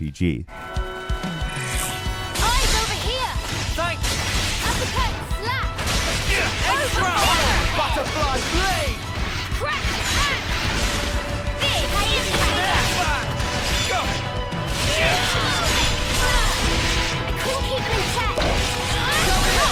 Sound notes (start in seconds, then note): 0.5 upbeat ambient music; 4.0 loud thump; 6.3 player grunts